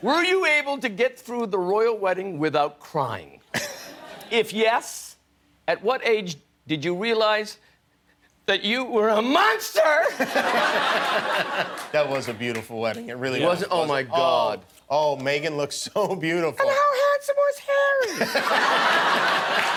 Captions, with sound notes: Were you able to get through the royal wedding without crying? If yes, at what age did you realize that you were a monster? [LAUGHTER] That was a beautiful wedding. It really-- Was it? Oh, my god. Oh, Meghan looked so beautiful. (HIGH VOICE) And how handsome was Harry? [LAUGHTER]